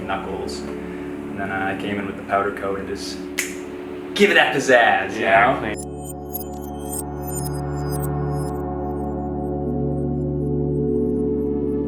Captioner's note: snaps